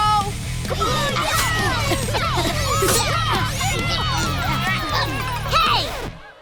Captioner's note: spectators cheering